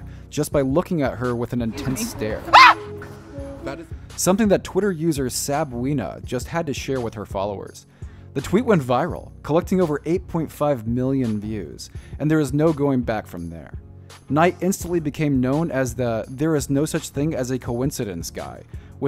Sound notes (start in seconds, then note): 2.5 woman screaming